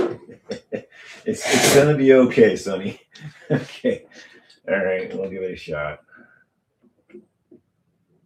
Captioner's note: laughter